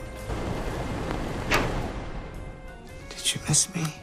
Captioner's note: rattling a/c clunks off